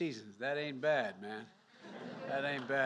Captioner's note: laughter